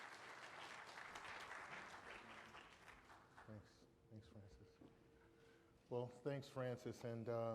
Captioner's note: applause